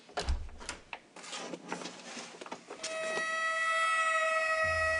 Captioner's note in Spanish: Sonido al abrir la puerta